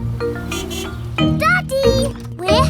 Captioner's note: horn honks